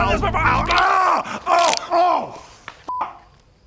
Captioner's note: unnecessarily graphic sound fx